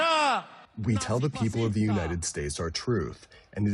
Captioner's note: through translator